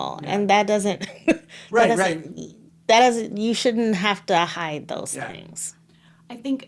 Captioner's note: laughing